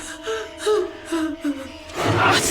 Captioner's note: crying